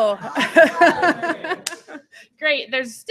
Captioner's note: laughter